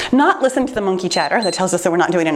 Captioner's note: timer beeps